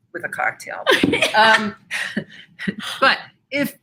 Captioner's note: laughs